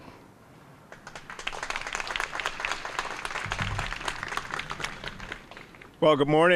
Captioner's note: applause